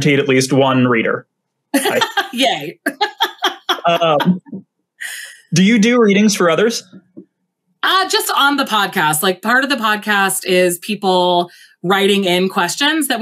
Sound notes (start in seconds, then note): 1.7 laughs